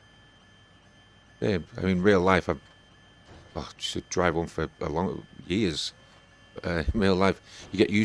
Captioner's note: forklift